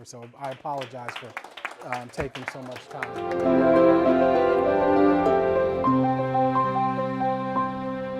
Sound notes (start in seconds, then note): 0.0 applause